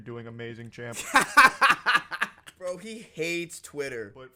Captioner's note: laughter